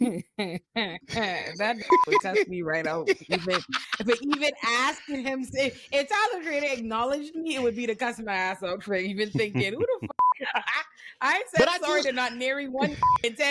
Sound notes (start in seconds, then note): 1.4 laughing; 1.9 beep; 10.1 beep; 12.9 beep